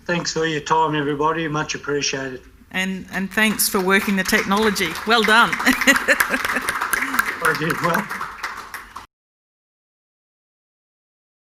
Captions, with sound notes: - Thanks for your time, everybody, much appreciated. - And thanks for working the technology, well done (laughs). (applause) - I did well.